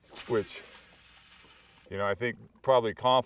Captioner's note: rod whipping; reel spinning